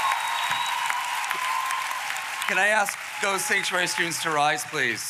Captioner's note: applause